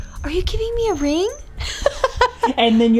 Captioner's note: laughs